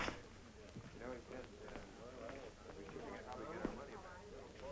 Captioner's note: chattering